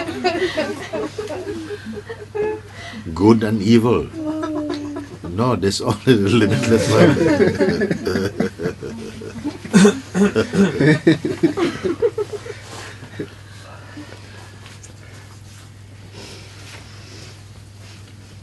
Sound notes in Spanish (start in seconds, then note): 0.0 risas; 9.8 risas